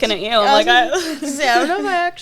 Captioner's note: laughs